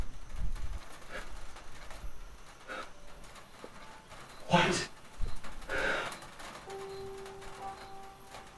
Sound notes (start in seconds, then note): 4.4 Victor's breath struggles